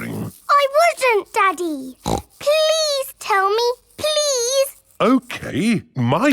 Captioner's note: snorts